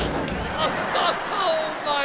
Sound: moaning

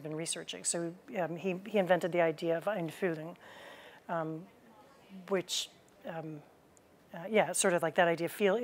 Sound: german

